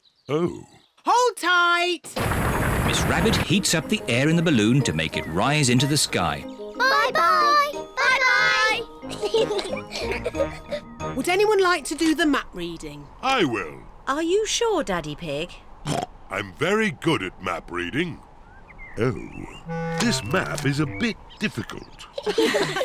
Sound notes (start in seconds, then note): 15.8 oinks